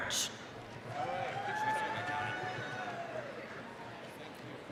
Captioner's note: applause, cheering